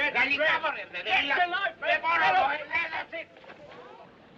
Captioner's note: Gritos em Língua Estrangeira